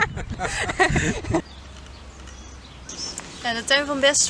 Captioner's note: laughter; nature sounds